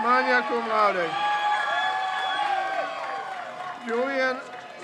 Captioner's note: crowd cheers